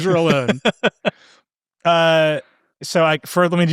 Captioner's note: laughing